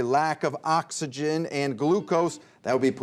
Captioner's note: beeping